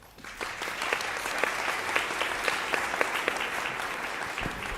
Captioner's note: audience applauding